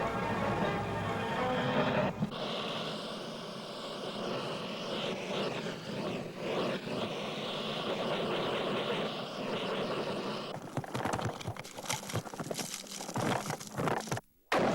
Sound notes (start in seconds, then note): 1.9 steam hissing; 11.9 lava bubbling